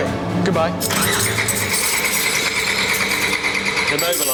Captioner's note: engine fails to start